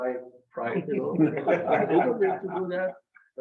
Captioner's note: members laugh